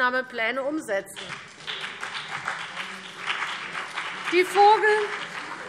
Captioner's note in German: Beifall BÜNDNIS 90/DIE GRÜNEN und vereinzelt CDU